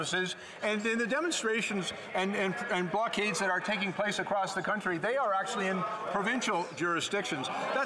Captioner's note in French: voix de l'interprète